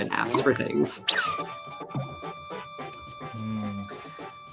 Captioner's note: laser sound